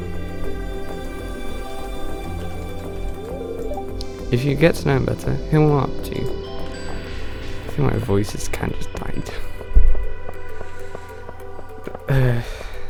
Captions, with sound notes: "If you get to know him better, he'll warm up" "to you." I feel like my voice is kinda just dying t- [sigh] [inhale] ehhhhhhhhhhh